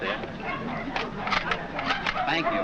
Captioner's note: camera shutters closing